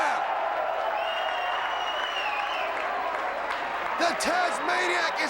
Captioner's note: crowd cheering